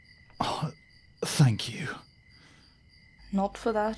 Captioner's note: lightly groaning